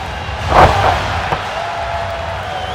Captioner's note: audience cheering; body thudding